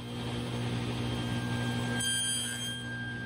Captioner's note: dust collection and table saw noise